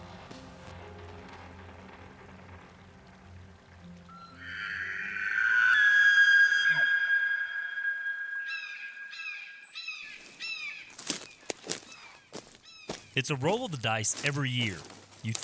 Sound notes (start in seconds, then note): 4.4 elk bugles; 8.7 birds chirping